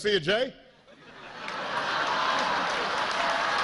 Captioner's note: cheers and applause